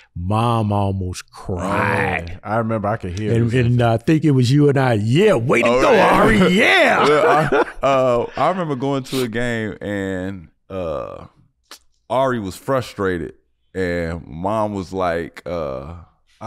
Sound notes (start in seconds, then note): 6.9 chuckles